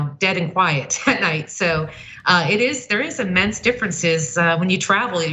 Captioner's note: laugh